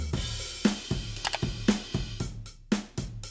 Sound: drum track playing; button clicks; drum track playing

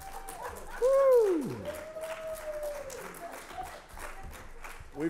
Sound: audience applauds

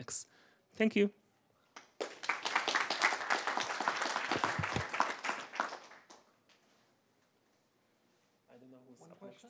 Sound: applause

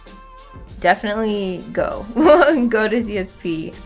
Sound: laughs

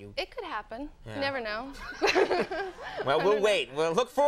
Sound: Conan and Molly laugh; audience laughs

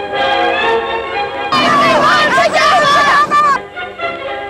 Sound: shouting

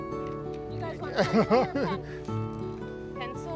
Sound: laughter

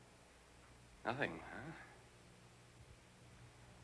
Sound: sighs

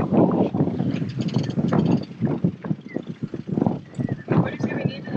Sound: wind rushing

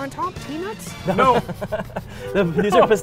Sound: laughs

